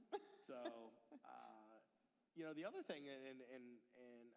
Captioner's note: laughter